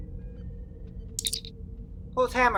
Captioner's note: communicator chirp